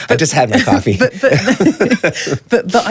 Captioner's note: laughter